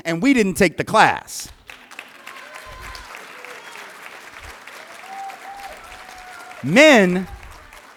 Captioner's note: applause